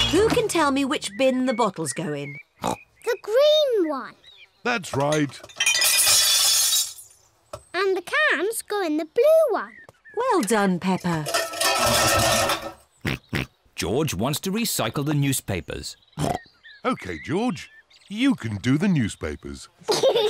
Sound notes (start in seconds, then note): 2.6 snorts; 4.9 bottles clink; 11.2 cans clatter; 12.9 snorts